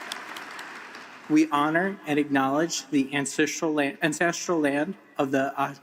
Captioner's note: applause